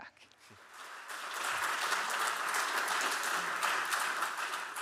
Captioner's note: audience clapping